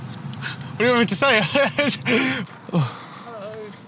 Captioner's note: laughs